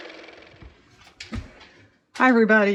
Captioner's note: car motor